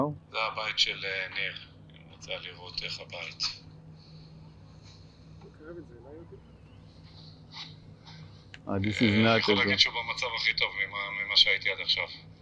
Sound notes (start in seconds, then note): 0.8 hebrew